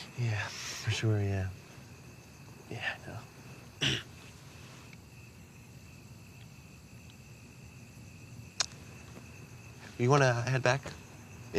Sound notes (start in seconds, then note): 0.6 sniffles/breathes; 3.8 clears throat; 8.6 clicks tongue